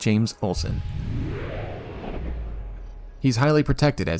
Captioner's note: whooooosh